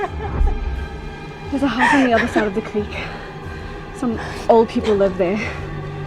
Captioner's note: crying